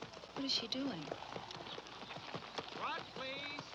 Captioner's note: pat